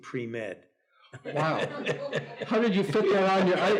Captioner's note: Anthony laughs